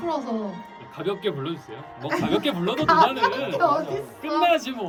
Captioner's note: laughs